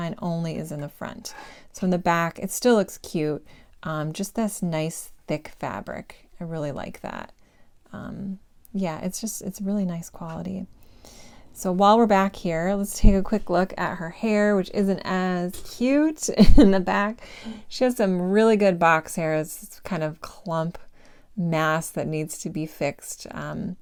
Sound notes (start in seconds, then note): 16.3 giggle